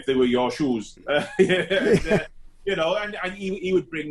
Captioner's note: both laughing